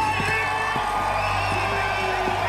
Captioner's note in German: Jubel, Pfiffe